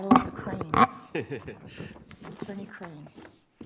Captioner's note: laughing